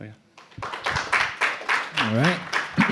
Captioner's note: applause